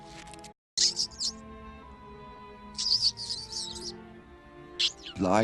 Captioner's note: squeaks of fear